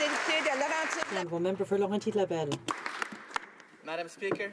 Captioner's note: applause